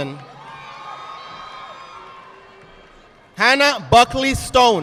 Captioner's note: audience applauding